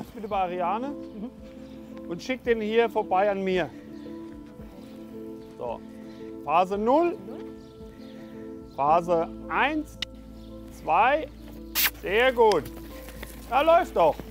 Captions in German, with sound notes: So, du bleibst bitte bei Ariane. Und schick den hier vorbei an mir. So, Phase Null, Phase Eins (schnalzt), Zwei (Kussgeräusch). Sehr gut! Läuft doch!